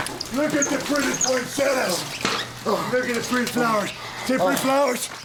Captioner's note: speaks faintly